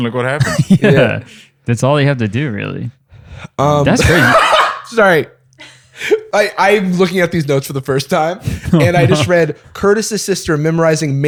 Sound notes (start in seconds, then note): 0.4 laughs; 3.9 laughs